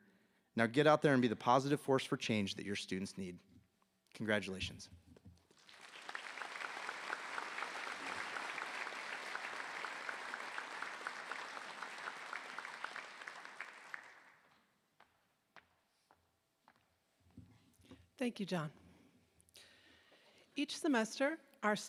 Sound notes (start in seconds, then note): 9.2 applause